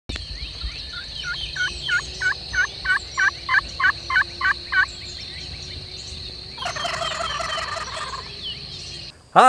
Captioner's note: woods waking up... Turkey Gobble